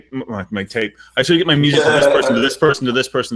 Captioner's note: laughing